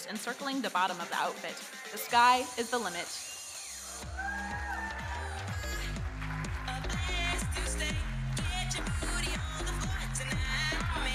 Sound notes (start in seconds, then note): 3.2 audience cheering; 6.8 electronic dance music